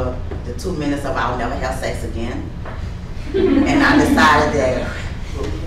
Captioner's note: folks laughing